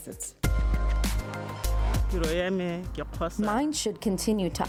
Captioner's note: speaks foreign language